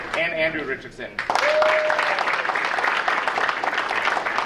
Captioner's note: audience cheering